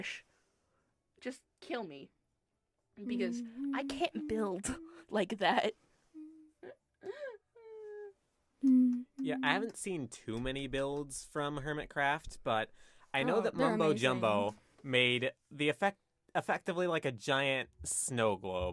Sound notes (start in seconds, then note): 6.7 humming